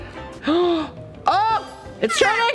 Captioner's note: gasping